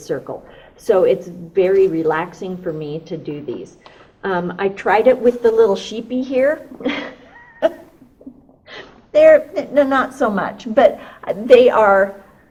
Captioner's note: laughs